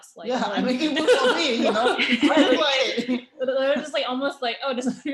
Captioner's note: laughter